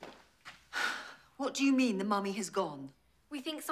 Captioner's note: sighs